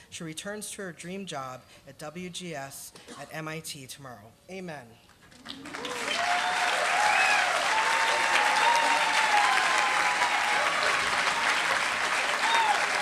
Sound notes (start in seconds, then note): 5.3 applause